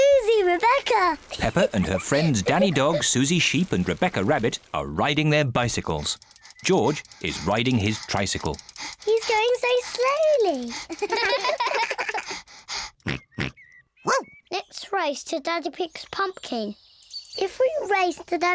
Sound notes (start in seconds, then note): 10.9 all laugh; 11.0 george panting, snorts